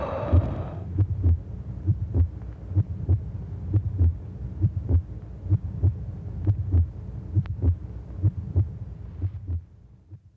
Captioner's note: heartbeat Sounds